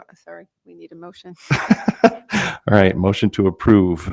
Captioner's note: laughs